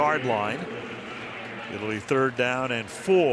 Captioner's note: pa announcement